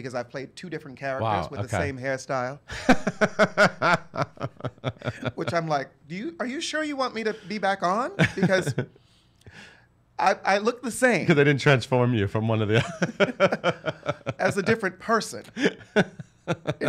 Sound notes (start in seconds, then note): 2.7 laughs